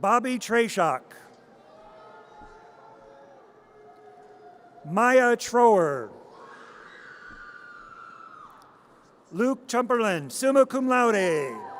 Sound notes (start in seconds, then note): 1.8 audience cheers; 6.7 audience cheers